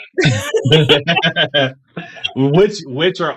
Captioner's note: both laughing